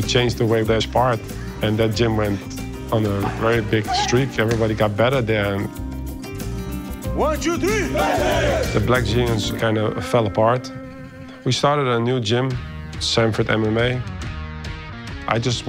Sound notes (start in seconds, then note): 8.4 everybody in unison